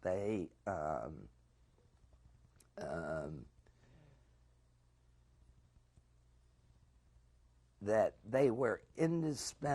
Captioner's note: pauses for 7 seconds